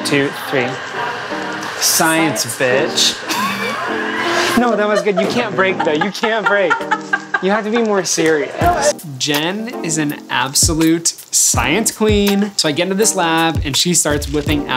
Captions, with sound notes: One, two, three. Science bitch. - Science bitch. (laughing) - No, that was good, you can't break though. You can't break. You have to be more serious. Jen is an absolute science queen. So I get into this lab, and she starts whipping